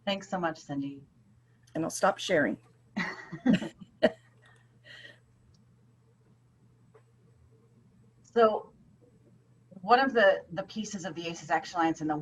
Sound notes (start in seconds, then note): 3.0 laughing